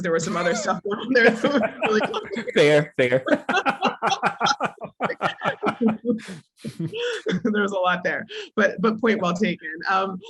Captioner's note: laugh